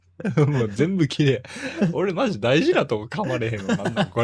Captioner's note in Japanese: 笑い; 笑い